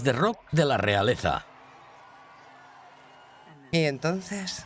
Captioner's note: crowd cheering